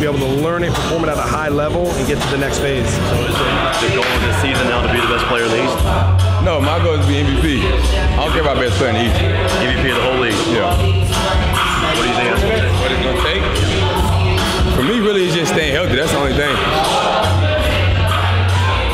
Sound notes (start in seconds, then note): none